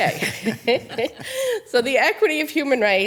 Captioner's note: attendees laughing